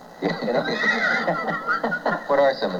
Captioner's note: laughter